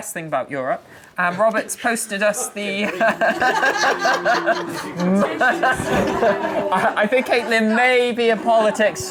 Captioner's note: laughing